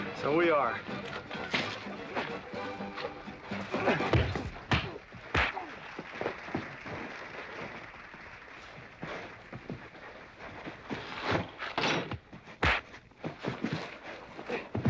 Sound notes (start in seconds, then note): 3.9 pop, pop, pow; 6.0 thump; 12.6 pow, thump